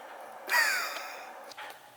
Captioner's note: laugh